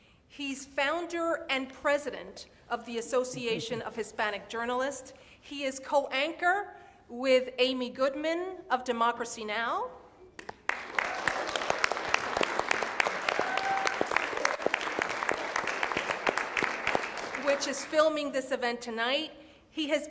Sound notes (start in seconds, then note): 10.5 audience applauds